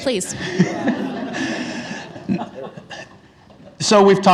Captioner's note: attendees laugh